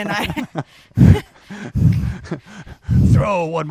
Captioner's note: both laughing